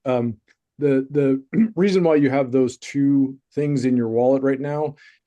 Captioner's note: clears throat